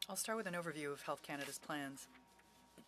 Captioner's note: speaking French